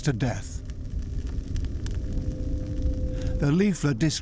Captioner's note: fire crackles